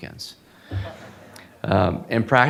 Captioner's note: audience laughing